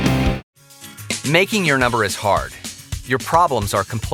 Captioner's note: rock music; voiceover